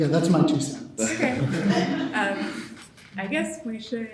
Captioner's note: all chuckling